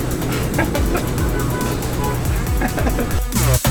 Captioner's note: laughing